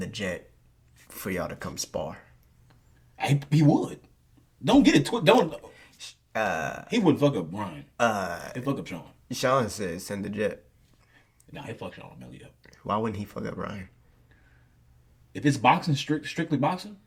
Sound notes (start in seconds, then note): none